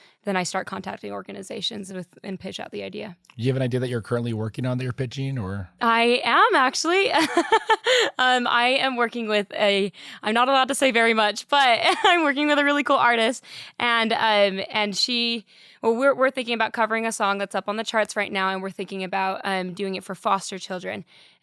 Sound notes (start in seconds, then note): 7.1 laughs